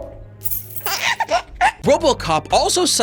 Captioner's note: baby laugh